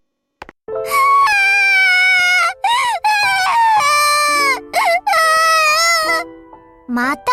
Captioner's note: sobbing